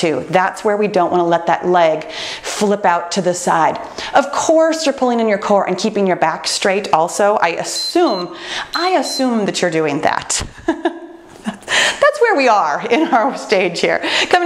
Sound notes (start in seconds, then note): 7.5 timer beeps